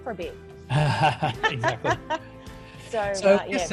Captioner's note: laughs